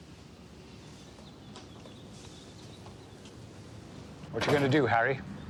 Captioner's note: birds chirping